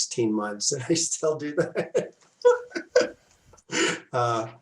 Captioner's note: laughs